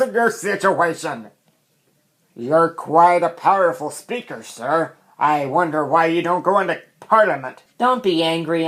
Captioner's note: mocking